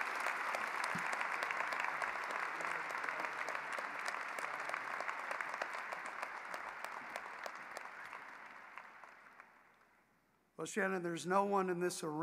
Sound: applause

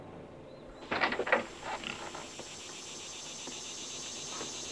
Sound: insects chirping

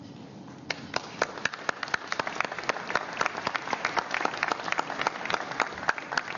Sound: applause

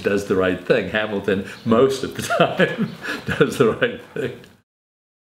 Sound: laughs

